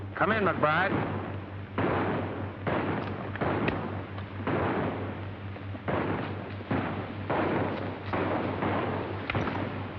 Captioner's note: gunshots